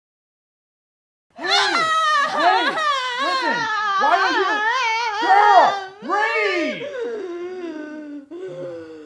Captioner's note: screaming; deep breath